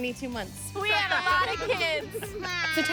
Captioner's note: screaming and laughing